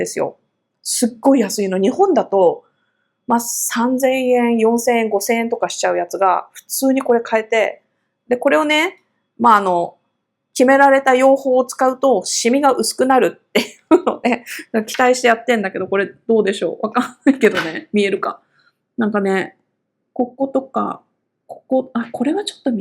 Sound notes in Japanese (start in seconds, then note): 13.9 笑い